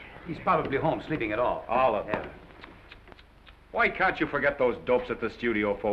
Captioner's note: tsks